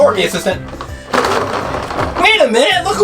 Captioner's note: wheels rolling across floor